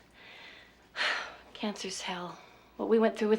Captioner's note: sighs